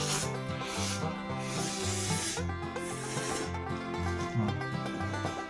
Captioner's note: vacuum cleaner going full power with no warm-up